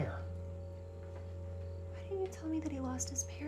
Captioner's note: crickets chirping; tense music